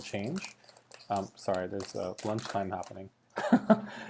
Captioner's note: laughs